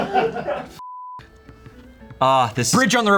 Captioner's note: crew laughs; beep